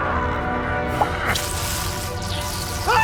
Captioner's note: hammer thuds; vampire growls; Max grunts; head pops; Max shrieking; blood squelches